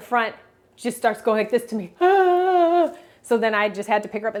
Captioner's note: imitates sobbing